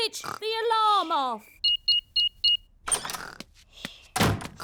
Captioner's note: beeping